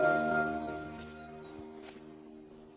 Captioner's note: none